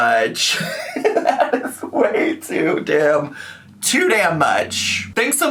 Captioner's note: laughs